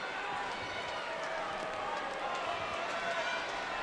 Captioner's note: crowd cheering